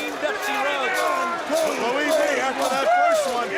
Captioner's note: crowd chatter